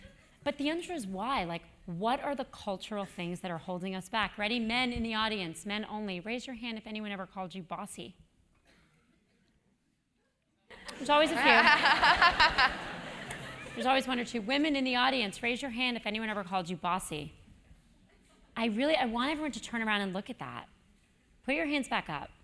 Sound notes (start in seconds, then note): 10.8 laugh